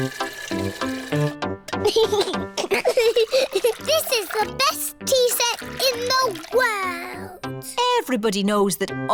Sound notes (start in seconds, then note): 1.8 giggles